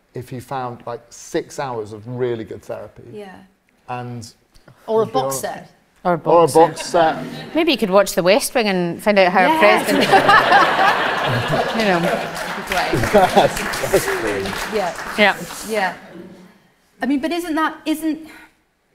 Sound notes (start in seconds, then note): 9.7 all laugh; 10.6 applause; 12.8 all murmuring in agreement